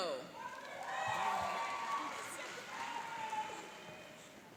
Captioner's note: cheering and applauding